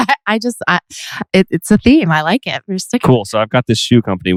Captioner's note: laughs